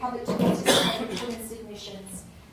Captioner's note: coughing